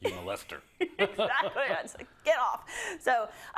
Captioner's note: laugh